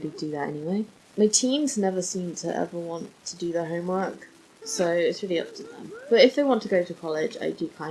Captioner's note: giggles